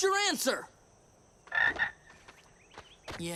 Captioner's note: croaking